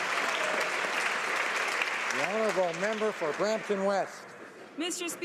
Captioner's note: applause